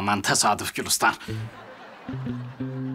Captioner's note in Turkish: Gülme efekti